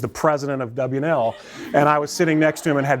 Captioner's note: laughter